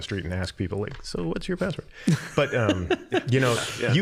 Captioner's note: laughing